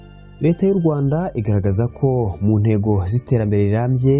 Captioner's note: speaking in Kinyarwanda